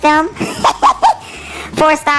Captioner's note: laughs